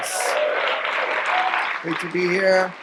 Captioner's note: audience applause